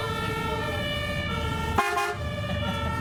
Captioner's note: sirens